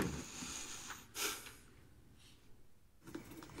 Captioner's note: exhales heavily